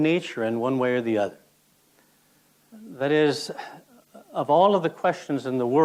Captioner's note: sighs